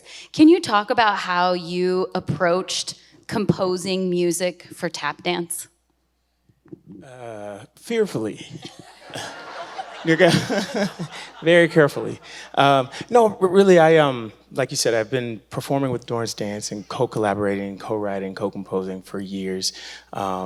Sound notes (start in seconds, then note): 8.6 audience laughing